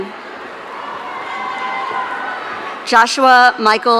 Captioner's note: audience cheering